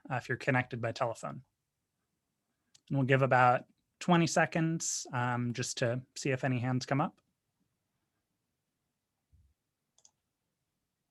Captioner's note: silence